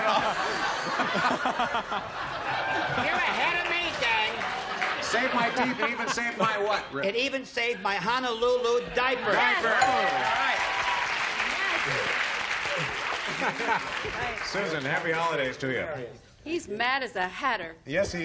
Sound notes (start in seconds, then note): 2.5 laughter; 11.4 ding; 15.1 laughs